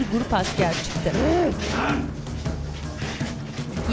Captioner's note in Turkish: Bağırma sesi; Nefes sesi